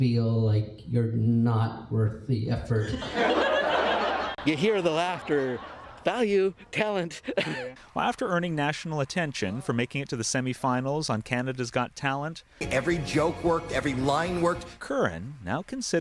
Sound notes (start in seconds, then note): 5.2 laughter